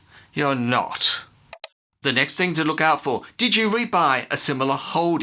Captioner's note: click